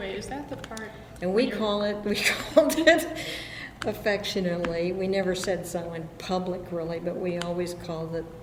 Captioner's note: laughs